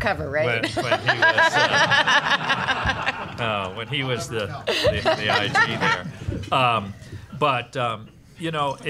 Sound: laughing

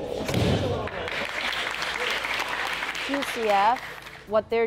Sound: audience clapping

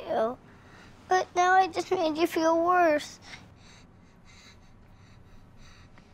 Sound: panting

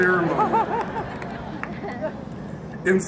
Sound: audience laughs

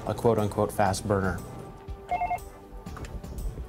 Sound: phone rings

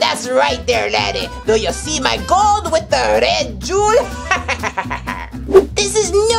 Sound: laughs

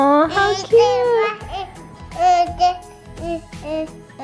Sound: babbling

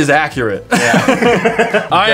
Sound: laughter

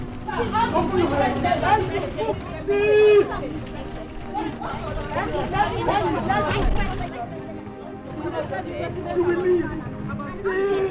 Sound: distinct chatter

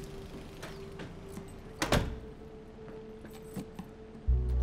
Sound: soft music; door shutting

